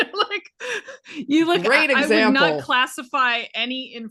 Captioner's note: laughing